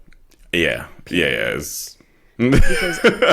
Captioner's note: laughs